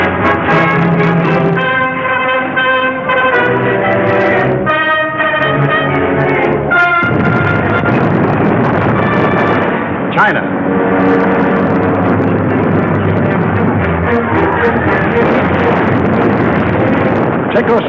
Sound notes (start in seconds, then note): 7.0 artillery roaring; 11.3 planes roaring; 15.2 guns firing